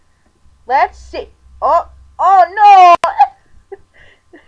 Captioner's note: chuckle